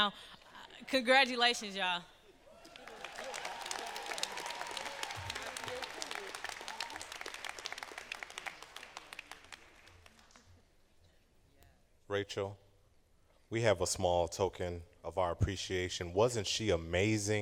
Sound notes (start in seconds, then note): 4.8 cheers and applause